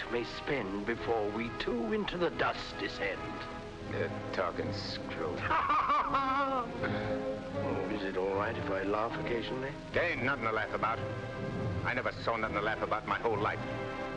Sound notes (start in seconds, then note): 5.4 laughs jovially